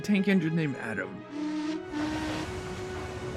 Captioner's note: adam whistles